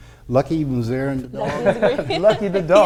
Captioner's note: laughing